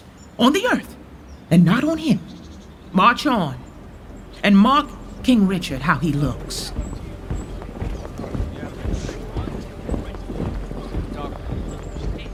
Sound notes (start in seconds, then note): 7.5 footfall